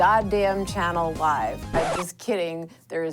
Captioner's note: record scratch